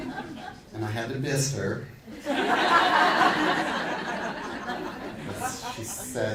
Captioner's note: audience laughing